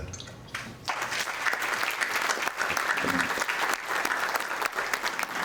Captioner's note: audience applauding